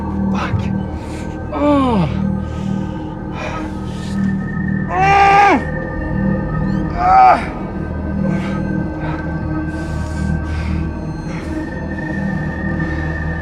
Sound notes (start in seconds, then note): 1.7 Justin groans; 8.3 eerie music